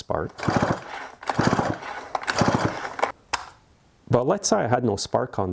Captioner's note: chainsaw whirring